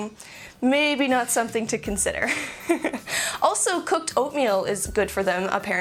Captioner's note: laugh